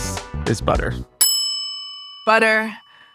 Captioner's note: bell dings